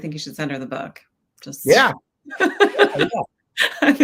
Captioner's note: chuckles